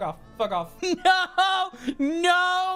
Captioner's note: despondently